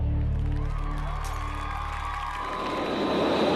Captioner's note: cheers and applause